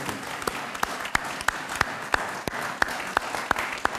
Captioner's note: audience applauds